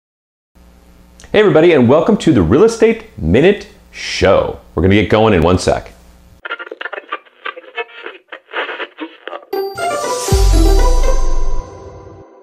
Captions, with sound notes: - Hey everybody and welcome to The Real Estate Minute Show. We're gonna get going in one sec. (radio waves crackle) (bright music)